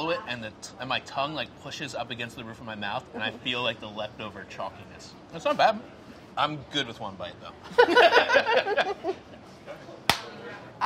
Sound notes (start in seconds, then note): 7.7 both laugh; 10.0 hands clap